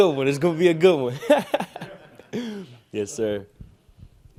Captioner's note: laughs